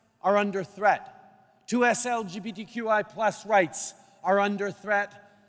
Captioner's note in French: none